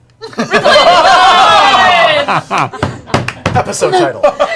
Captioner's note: laughter